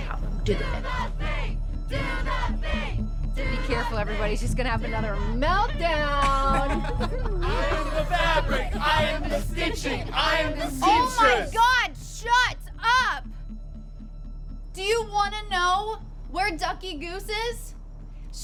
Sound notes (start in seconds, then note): 1.3 crowd; 5.9 laughs; 7.4 crowd